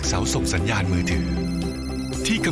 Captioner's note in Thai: เสียงโทรศัพท์